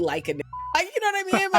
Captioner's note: beep